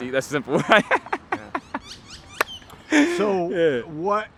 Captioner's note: laughs